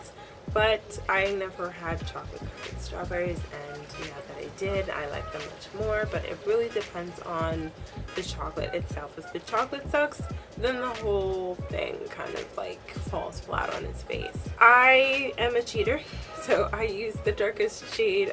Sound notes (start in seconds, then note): none